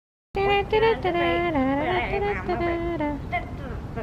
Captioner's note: humming